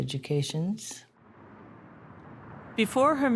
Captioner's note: wind rustling